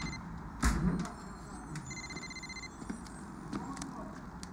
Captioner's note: phone rings